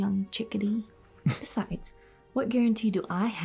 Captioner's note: Tristan scoffs